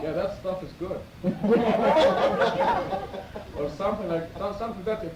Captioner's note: laughter